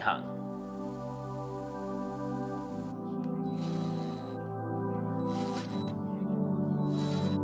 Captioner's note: drill whizzing; lively music